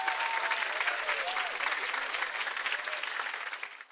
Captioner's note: audience applause; jingling